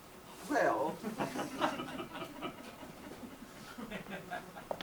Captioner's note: audience laughs